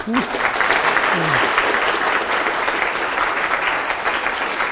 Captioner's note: audience applauds